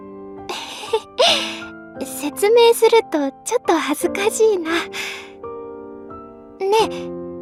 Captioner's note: chuckles